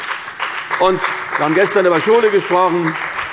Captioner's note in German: Beifall bei der CDU und dem BÜNDNIS 90/DIE GRÜNEN